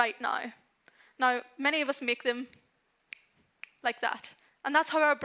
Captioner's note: snaps fingers